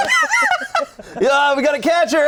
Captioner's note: group laughing